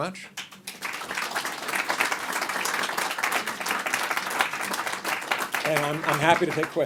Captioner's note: applause